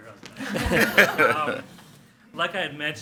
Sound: board members and attendees laugh

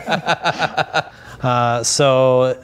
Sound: laughing

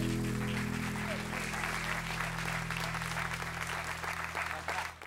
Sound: cheers and applause

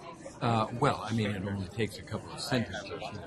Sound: voiceover

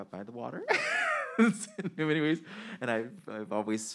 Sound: man laughing

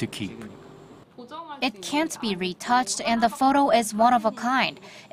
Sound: Korean

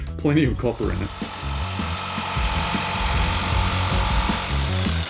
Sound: jigsaw buzzing

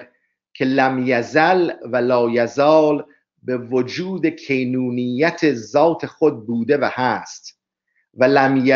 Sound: persian reading

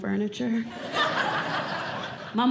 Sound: audience Laughing

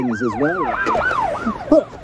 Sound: police sirens

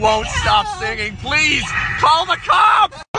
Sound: incoherent screaming

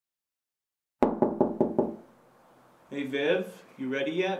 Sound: knock at door

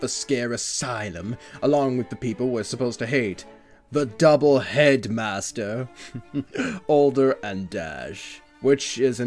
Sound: giggles

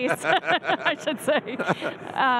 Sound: laughing

